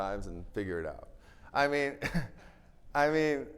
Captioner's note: chuckles